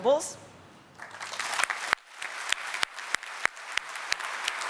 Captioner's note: applause